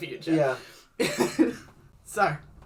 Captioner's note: laughs at what happens next